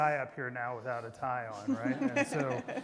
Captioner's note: everybody laughing